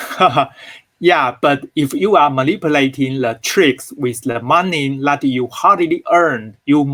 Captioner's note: laugh